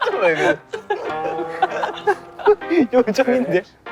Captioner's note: unable to hold the laughter